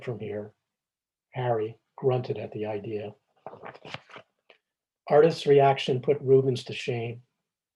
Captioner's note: pages turning